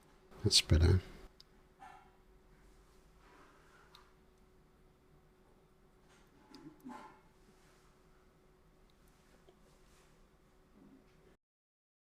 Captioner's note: silence